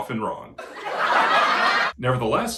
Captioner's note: laughing